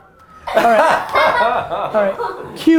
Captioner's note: group laughter